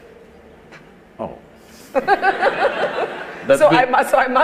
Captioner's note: laughter; 笑聲